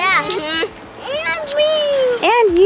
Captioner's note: moans